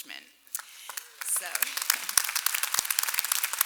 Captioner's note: clapping